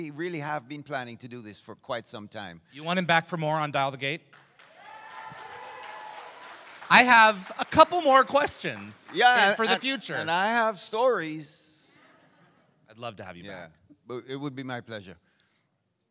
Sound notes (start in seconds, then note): 4.6 crowd cheers